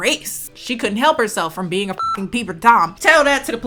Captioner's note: beep